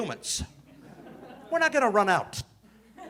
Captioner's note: audience laughing